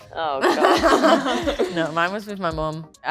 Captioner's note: group laughs